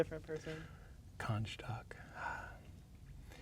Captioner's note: sighs